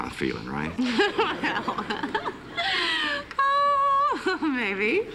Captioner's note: laughs